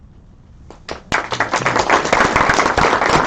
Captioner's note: applause